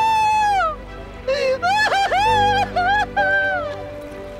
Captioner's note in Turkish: Bağırıyor